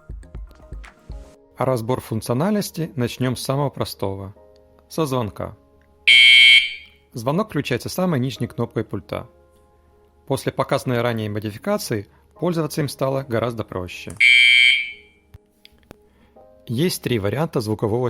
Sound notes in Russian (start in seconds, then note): 6.1 звук звонка